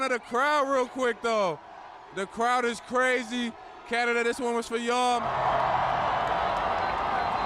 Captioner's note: cheers and Applause